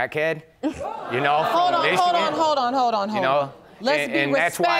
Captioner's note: audience gasps